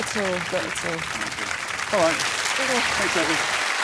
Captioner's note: applause